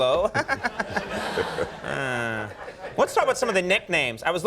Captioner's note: high pitched chuckling